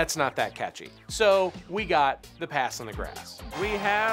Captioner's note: revving